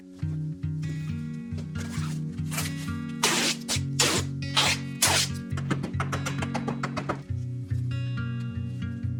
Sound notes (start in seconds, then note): 0.2 upbeat music; 3.2 plastic rips; 3.2 tape peeling; 5.5 wood clatters